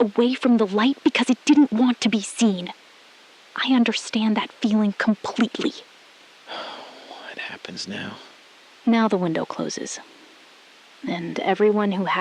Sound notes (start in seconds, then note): 6.4 long breath